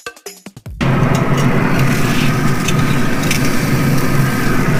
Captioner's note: grill roars